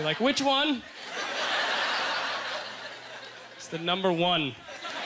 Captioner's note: audience laughter